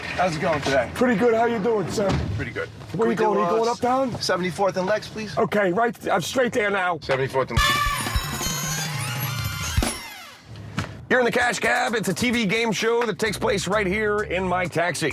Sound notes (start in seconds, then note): 10.2 alarm sounds, bells ring